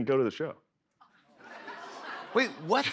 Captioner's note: laughter